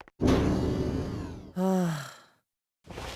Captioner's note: sigh